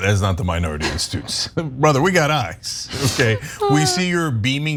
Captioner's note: laugh